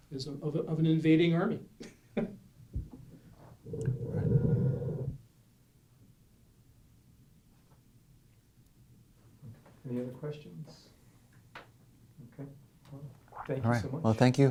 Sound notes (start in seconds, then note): 2.7 laughs; 10.0 voiceover